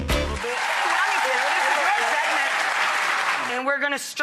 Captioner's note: applause